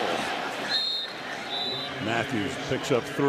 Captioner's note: whistle